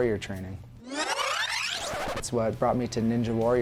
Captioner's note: rewind sound